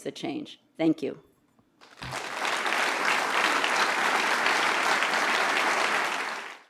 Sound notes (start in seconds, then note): 4.2 appaluse